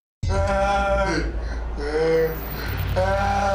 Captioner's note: moaning